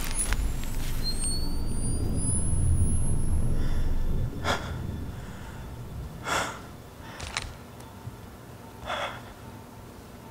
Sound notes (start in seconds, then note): 7.8 relieved sigh